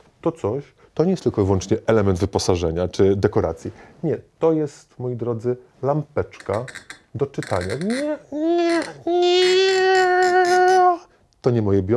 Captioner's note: squeaky noises